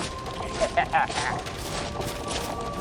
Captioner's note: cackle